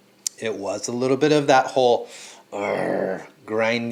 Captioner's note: growling